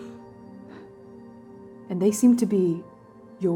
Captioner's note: sharp exhale